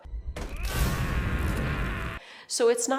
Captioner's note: Anger yells